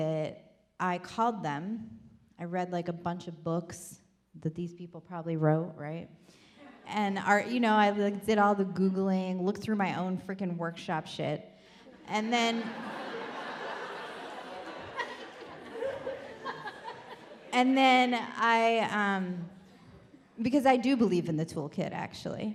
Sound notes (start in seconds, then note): 12.2 audience laughs